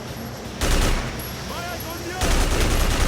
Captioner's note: gun blasting; speaking in foreign language; gun blasting